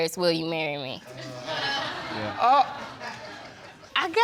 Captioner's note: spectators laugh